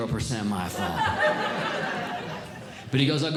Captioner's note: audience Laughing